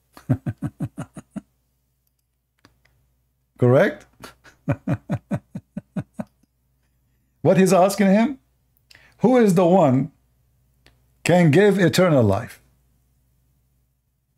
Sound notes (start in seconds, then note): 0.1 Ketawa; 4.2 Ketawa